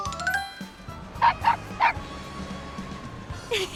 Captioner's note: bark*! *bark*!